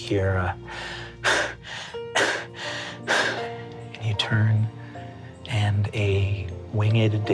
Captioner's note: heavy breathing